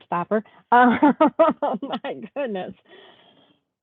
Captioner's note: laughs